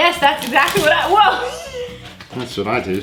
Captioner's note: laughing